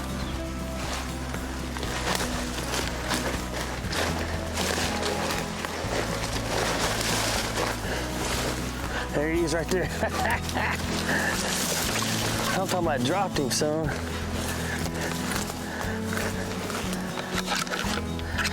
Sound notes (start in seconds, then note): 0.2 leaves rustling; 9.6 laughing; 13.9 heavy breathing